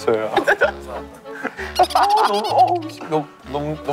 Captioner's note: laughing